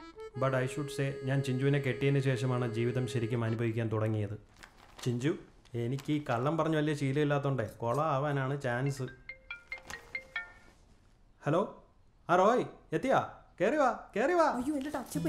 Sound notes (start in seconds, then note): 8.9 phone ringing